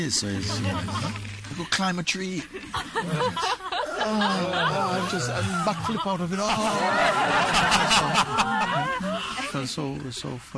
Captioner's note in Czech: smích